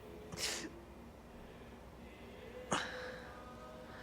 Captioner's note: gasping